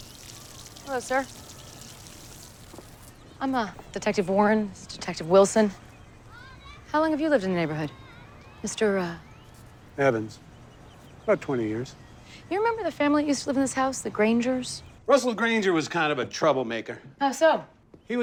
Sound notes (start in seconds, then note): 0.0 water shuts off